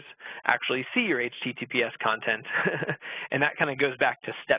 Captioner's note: laughing